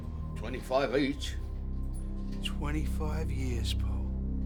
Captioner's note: awestruck